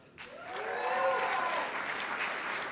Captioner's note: cheers and applause